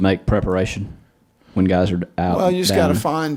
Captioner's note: murmuring